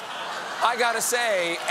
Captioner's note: laughter